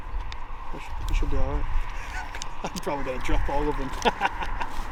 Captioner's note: laughs